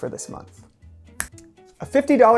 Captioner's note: snaps fingers